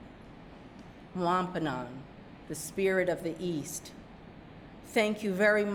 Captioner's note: speaking narragansett